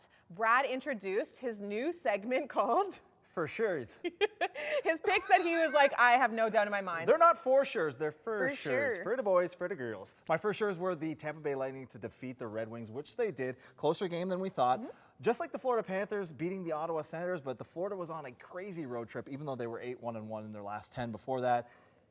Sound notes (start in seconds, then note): 4.1 laughs quietly; 4.2 laughs spiritedly